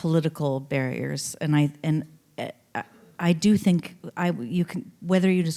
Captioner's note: none